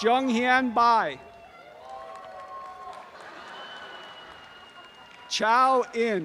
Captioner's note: applause and cheering